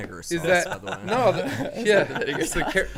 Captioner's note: men laughing